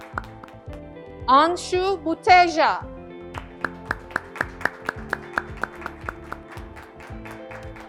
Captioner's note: graduates clapping